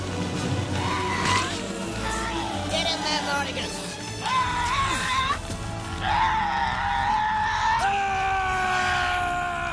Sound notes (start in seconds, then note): 0.5 grunts; 0.7 shouts; 5.9 shouting